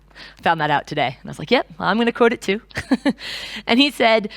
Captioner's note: chuckles